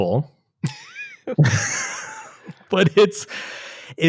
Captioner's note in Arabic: يضحك